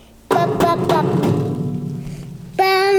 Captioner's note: banging